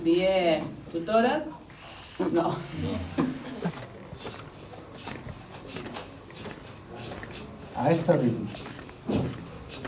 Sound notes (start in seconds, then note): 3.2 laughs